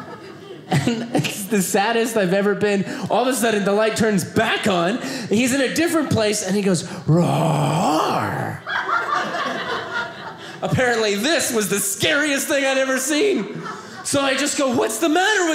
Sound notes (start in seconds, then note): 8.4 audience laughing